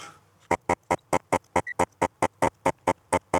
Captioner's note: buzzing